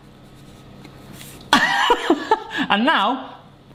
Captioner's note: laughing